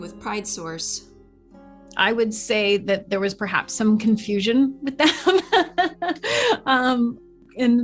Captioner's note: laughs